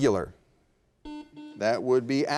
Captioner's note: buzzer beeping